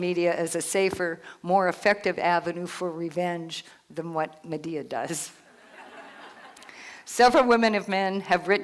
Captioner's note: laughter